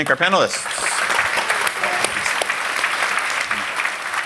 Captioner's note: applause